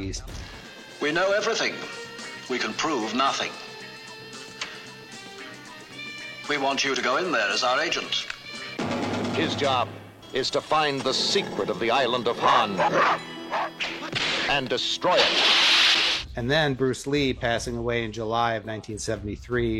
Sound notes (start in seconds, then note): 8.6 exciting music; 12.5 dog barking